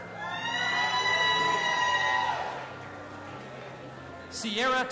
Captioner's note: audience applauding and cheering